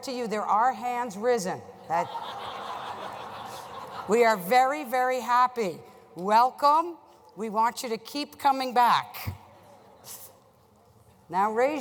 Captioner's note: laughter